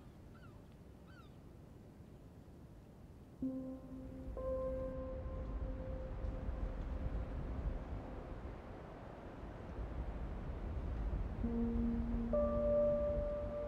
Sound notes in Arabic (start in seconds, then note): 5.3 نسيم قوي; 11.3 تستمر موسيقى البيانو الناعمة